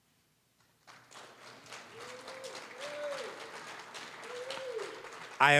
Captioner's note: applause